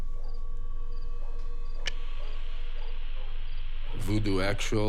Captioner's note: dogs barking in distance